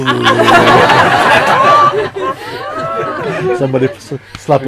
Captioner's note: laughter